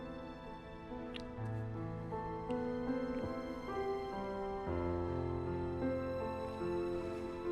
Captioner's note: romantic music; lips smacking